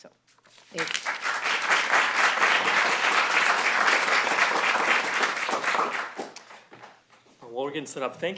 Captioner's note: applause